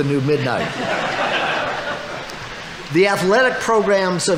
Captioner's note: audience laughing